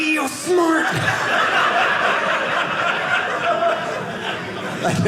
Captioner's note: audience laughing